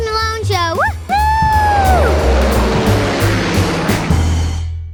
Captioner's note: engine humming